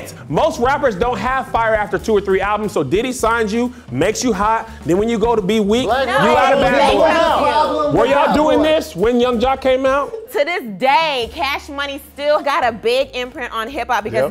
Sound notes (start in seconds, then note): 6.2 overlapping chatter